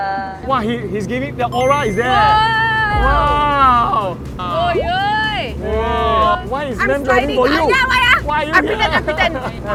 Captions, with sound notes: Wah, he's giving... The aura is there! Wah! Wow! *hootin' and hollerin'* Why is ma'am driving for you! Ya, why ah?! I pretend, I pretend.